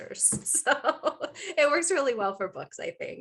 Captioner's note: chuckling